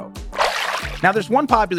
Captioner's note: water splashing